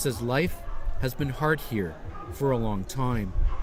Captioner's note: speaking alternate language